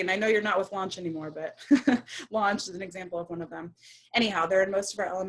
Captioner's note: laughs